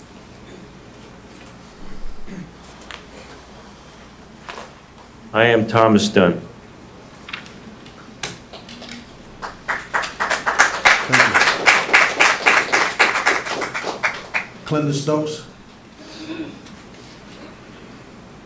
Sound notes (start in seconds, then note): 6.3 applause